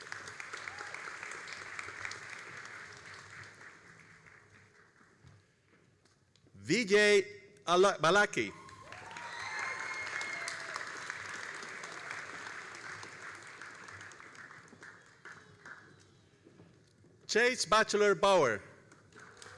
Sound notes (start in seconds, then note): 0.0 all applauding; 8.4 all applauding and cheering